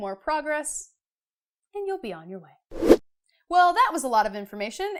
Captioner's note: air whooshing